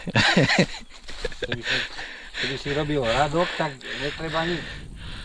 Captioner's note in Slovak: smiech